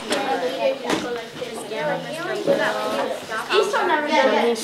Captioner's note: chatter